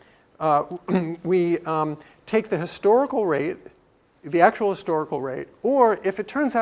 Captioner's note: cough